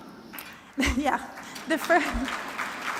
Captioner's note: applause